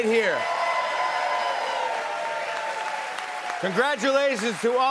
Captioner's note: cheers and applause